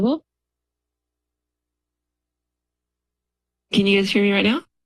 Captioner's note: silence